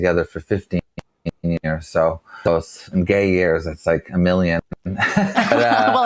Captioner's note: laughs